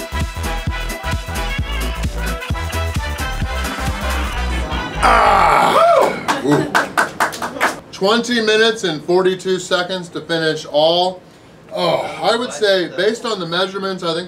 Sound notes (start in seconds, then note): 5.5 crowd - clapping & cheering